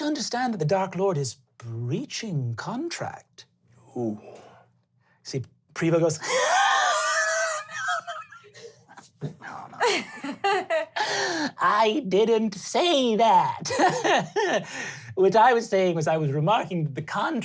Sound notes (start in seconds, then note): 7.6 hysterical wheezing; 13.6 laughing